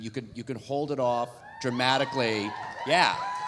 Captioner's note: audience cheering